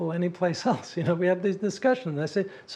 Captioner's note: laugh